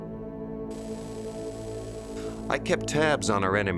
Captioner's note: static buzzing